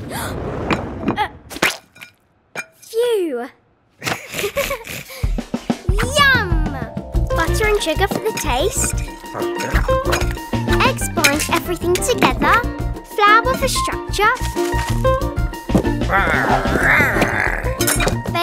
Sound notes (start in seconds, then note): 0.1 Cosima gasping; 1.4 butter splattering; 4.0 both laughing; 8.3 upbeat music playing; 16.0 big Lizard growling